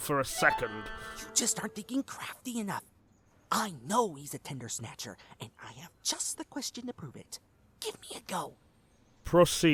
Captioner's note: whispering